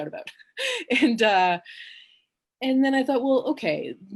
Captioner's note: she chuckles